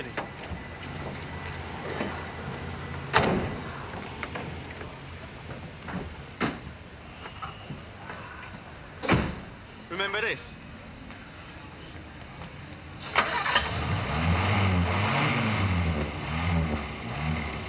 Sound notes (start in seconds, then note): 12.9 starts car; 16.0 revs engine